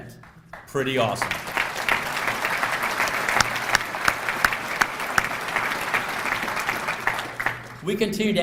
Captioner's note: applause